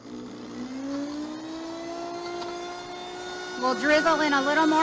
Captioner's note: blender whirring